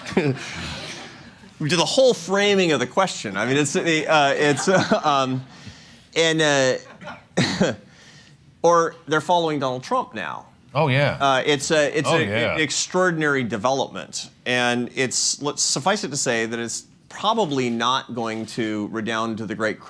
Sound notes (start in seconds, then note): 5.8 laughs